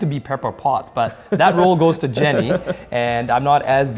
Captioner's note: laughs